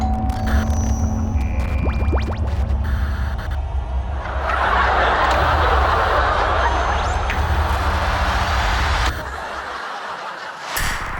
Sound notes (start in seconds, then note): 0.1 magic chime; 1.6 tv static; 4.1 tv audience laughter; 6.6 tense music; 9.1 tv audience laughter